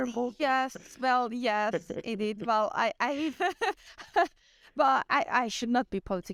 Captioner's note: laughter